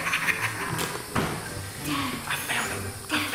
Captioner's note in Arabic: يضحك